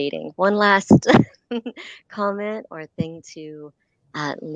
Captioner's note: laughter